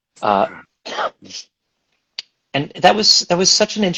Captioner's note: coughs